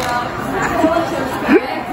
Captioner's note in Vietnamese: cười